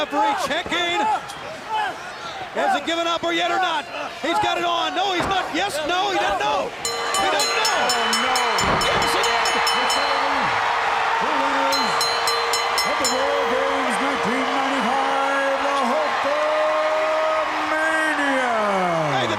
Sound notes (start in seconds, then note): 6.8 bell ringing; 9.2 crowd chattering; 11.7 bell ringing